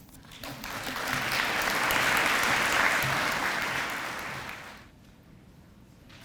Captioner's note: audience applause